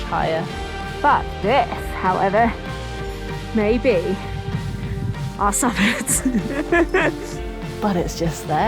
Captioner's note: laughs